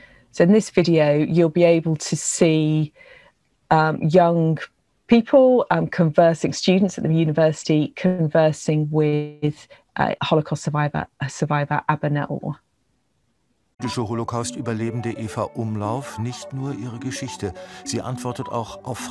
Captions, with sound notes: So, in this video you'll be able to see young people conversing students at the university conversing with a Holocaust survivor, a survivor up in Iowa. (Narrator speaks in a foreign language)